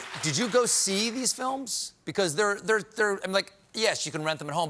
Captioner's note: applause